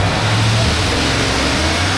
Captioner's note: motor Rumbling